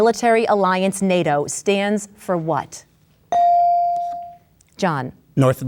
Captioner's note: bell dings